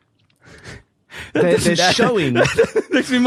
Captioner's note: baffled laughter